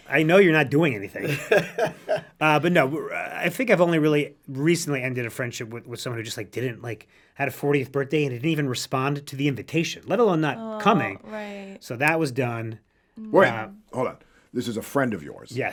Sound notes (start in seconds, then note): 1.2 laughs